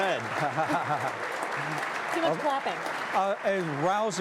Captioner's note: laughing